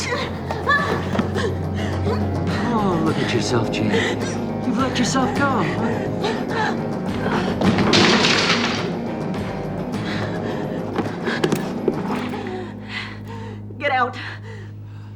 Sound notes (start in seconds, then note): 0.1 groans; 6.1 groans; 9.6 panting